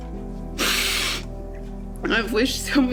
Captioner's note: Ally sniffling